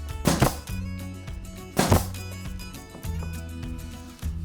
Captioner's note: nail gun popping